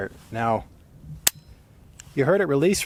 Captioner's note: bolt releases with a metallic clink